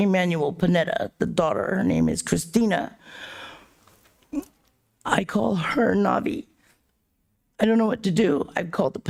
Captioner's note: gasps